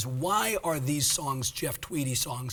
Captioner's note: none